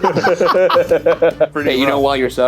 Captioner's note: laughing